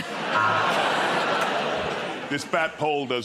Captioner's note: laughter